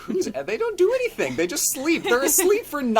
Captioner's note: laughs